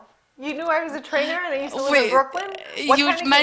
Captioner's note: laughing